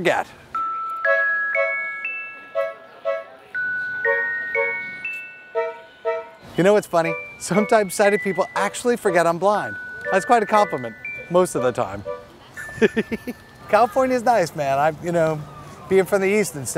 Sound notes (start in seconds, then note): 12.7 laughs